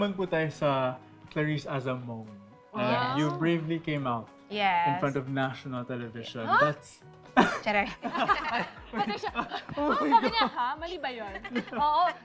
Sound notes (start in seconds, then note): 7.4 laughter